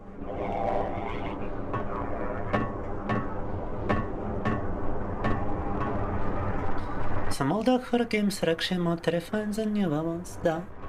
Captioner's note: speaking in foreign language